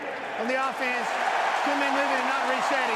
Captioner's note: cheering